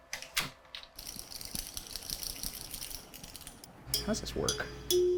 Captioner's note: rods rattling